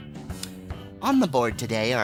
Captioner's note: gross lip click